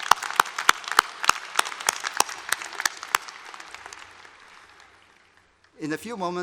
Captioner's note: applause